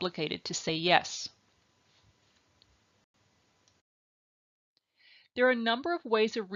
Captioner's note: silence